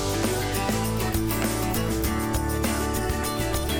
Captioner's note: singer humming